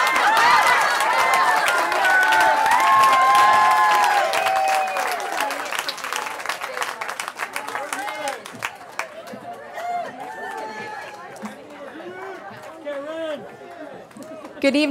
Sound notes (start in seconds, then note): 10.8 laughing; 12.7 cheering